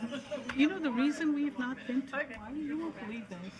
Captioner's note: attendees chattering; speaking faintly